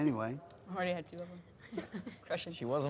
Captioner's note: laughs